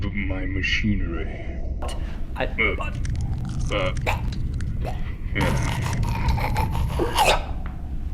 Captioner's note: gurgling